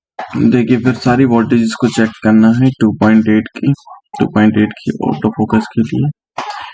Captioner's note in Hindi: गला साफ़ करने की आवाज़